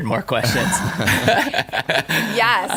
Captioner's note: laughter